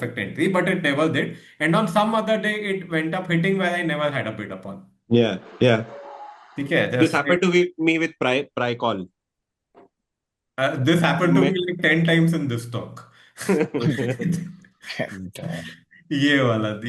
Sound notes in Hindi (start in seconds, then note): 13.4 हंसी